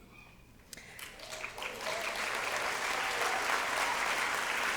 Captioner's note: applause